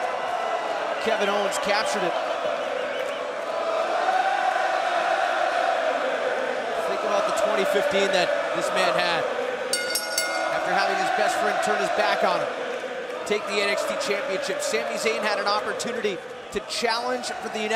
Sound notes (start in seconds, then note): 3.8 crowd cheering; 9.7 bell ringing